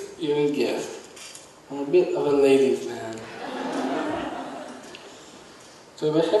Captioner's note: audience laughs